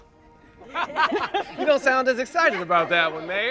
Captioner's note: group laughs